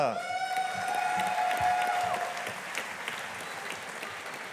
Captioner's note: audience applauding